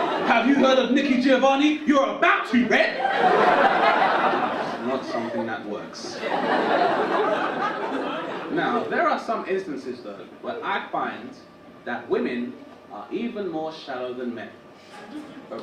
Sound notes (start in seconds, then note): 0.0 audience laugh; 6.0 audience laugh; 8.0 audience laugh